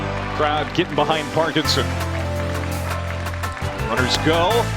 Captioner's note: voiceover